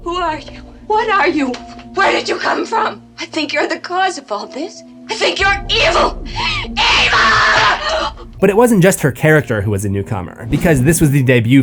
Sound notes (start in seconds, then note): 8.0 slap